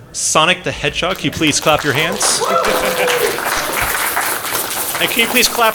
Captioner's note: applause